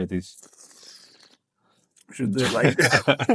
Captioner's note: slurps